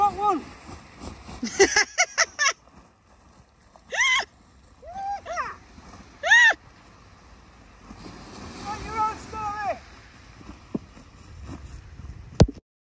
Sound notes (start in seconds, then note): 7.2 laughing